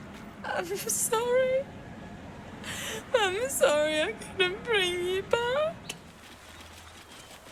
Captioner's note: sobbing